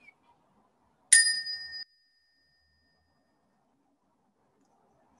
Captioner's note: bell chimes